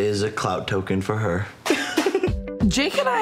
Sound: giggling

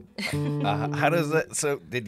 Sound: laughs

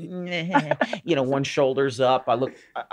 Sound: sniveling mocking

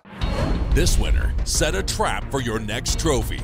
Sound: voiceover

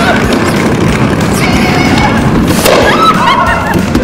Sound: laughing

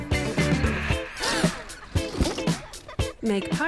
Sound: upbeat music; party guests gasp

